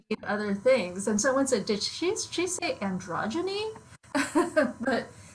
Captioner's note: laughs